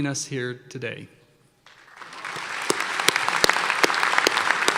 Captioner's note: applause